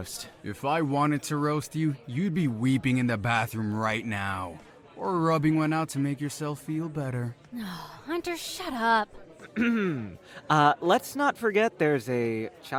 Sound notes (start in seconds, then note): 9.5 disgusted grunt